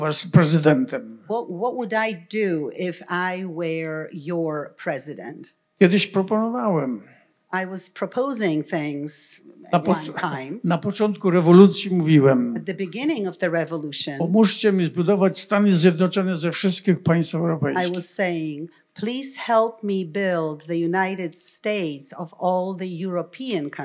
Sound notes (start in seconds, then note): 5.1 foreign language; 10.4 foreign language; 14.5 foreign language